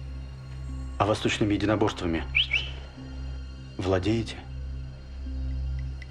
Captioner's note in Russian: свистит